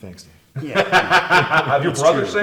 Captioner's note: laughs